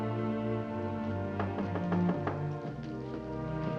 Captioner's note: knocking on door